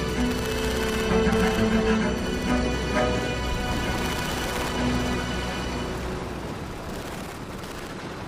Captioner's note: gunshots firing